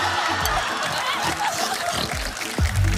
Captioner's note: laughter